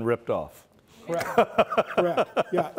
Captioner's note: laughs